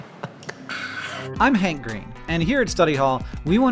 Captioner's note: hank voice over